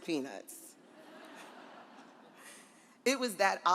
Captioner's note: audience laughs